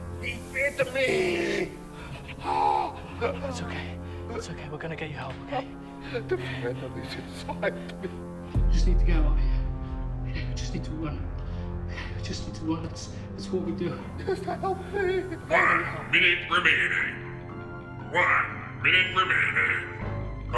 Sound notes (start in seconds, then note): 2.5 screaming